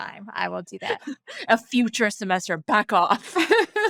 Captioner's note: laughing